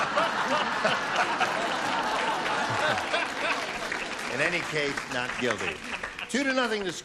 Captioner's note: laughter